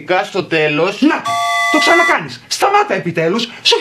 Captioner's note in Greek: σφυρίχτρα